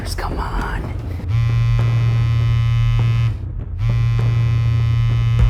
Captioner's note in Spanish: zumbido del teléfono celular